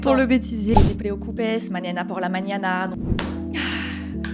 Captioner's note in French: Espagnol